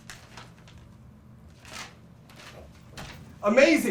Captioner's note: paper rustling